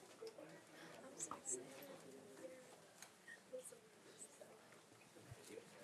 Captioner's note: speaks faintly